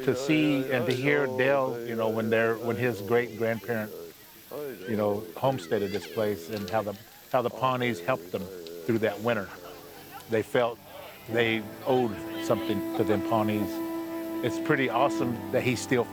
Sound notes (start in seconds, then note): 1.1 pat